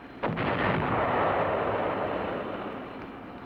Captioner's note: bomb explodes